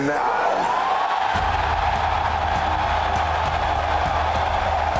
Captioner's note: crowd cheering